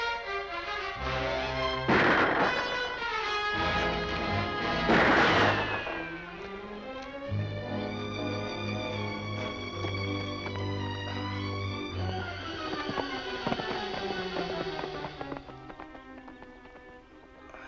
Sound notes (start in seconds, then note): 1.8 gun firing; 4.2 dramatic music; 8.1 soft dramatic music